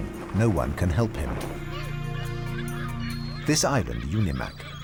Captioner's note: birds squawking